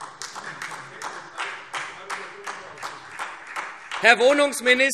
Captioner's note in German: Vereinzelter Beifall SPD